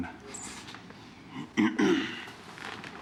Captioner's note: clearing throat